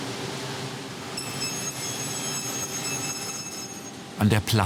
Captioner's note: very high-pitched whirring of the saw